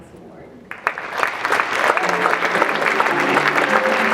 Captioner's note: audience clapping; jazz music